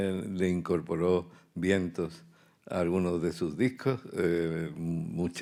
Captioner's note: speaking in Spanish